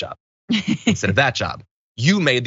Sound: laugh

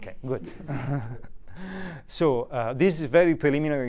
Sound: group laughs

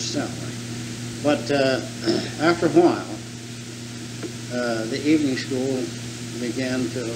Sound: clears throat

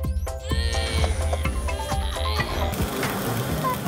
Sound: grunting; magnetic buzzing; Sema hums

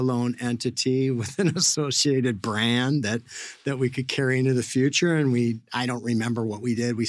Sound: laughs

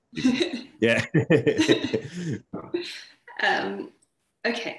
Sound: laughter

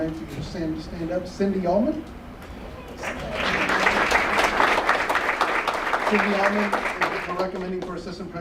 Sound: applause

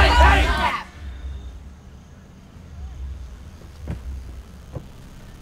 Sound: crickets chirping

